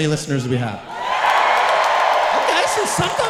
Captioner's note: audience cheering and clapping loudly